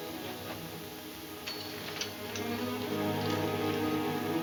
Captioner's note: spurs jingle